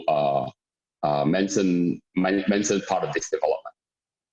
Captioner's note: murmers